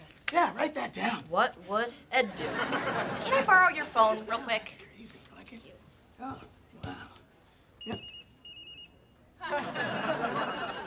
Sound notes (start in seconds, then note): 7.6 phone ringing; 9.4 laughing